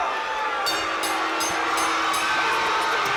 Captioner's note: bell rings